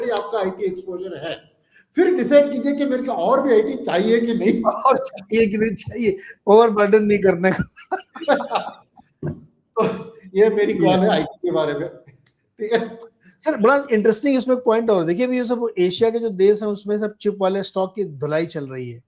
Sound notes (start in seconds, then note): 7.6 laughter